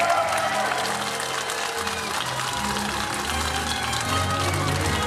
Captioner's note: audience applauding